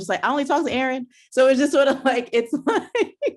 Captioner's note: laughs